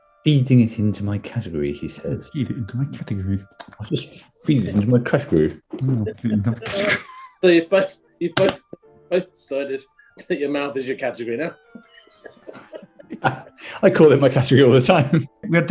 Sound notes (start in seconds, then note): 5.6 laughing; 11.8 laughter